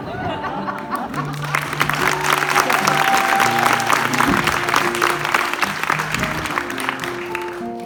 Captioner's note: applause